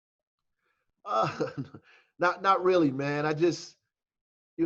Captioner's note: laughing